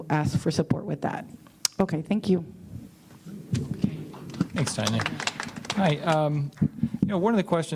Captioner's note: applause